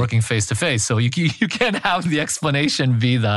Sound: laugh

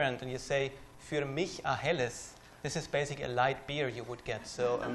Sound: non-english

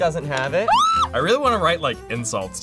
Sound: screams

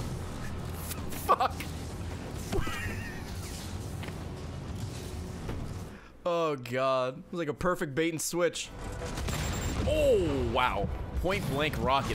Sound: laughs

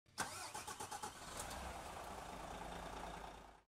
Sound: car engine roaring

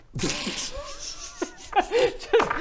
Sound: teasing laugh

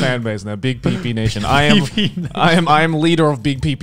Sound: laughing

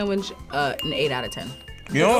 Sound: bell dinging

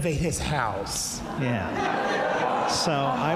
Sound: audience laughs

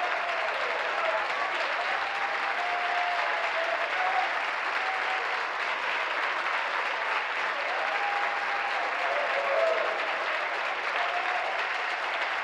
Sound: applause

